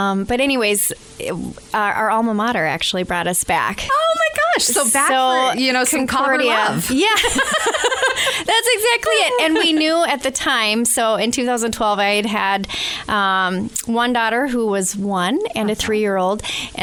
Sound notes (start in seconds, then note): 7.0 both laugh